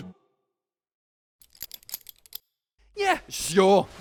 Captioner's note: rattling bound legs